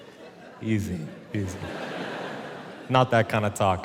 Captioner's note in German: Publikum lacht